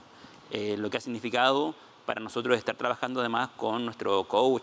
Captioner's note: speaking Spanish